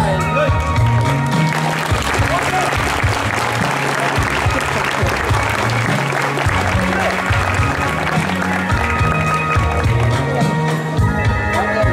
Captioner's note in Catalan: Aplaudiments